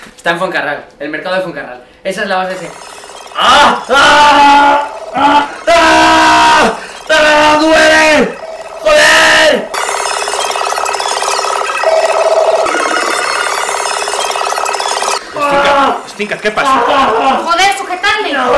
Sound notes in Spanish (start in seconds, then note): 3.4 Gritos